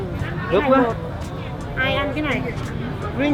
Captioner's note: speaking Vietnamese